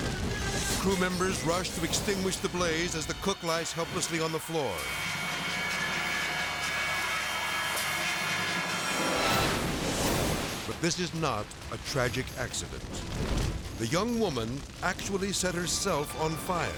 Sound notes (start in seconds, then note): 0.0 fast chaotic music; 5.5 edgy dramatic music; 9.3 fire exploding; 13.0 fire erupting